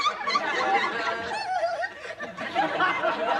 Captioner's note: giggling